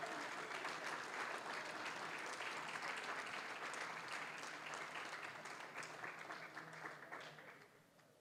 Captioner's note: applause, cheering; applause